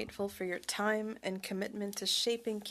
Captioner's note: speaking French